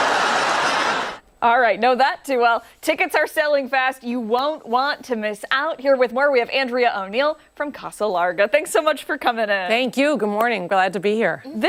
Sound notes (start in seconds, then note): 1.9 applause